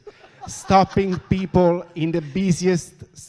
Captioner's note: audience laughs